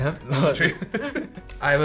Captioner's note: both laughs